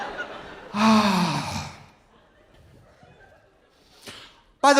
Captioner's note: audience laughing; Trixie sighs